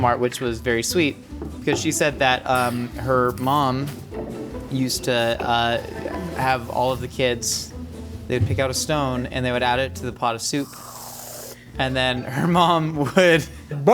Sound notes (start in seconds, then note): 10.5 whipped cream hissing; 12.3 chuckling